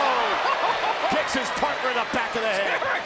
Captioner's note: laugh